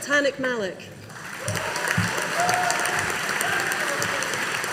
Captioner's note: audience applauding